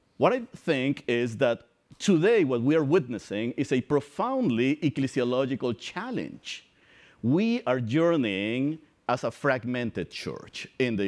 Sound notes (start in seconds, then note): none